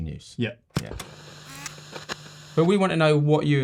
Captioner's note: projector zooming